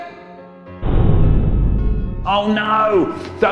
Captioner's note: muffled loud banging noise